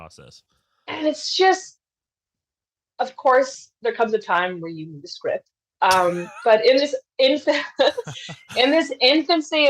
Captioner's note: both laugh